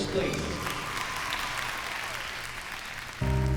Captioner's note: clapping